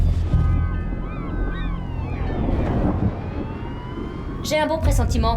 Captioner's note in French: Les cornes klaxonnent, les mouettes appellent